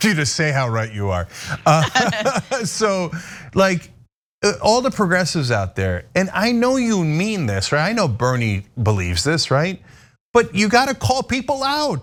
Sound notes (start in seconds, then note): 1.6 laugh